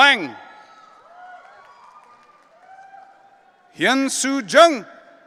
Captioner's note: audience cheering